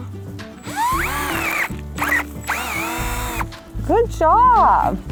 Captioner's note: drill noise